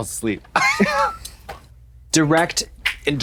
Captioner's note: Trixie retches; Trixie tee-hees